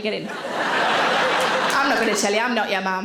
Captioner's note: audience laughing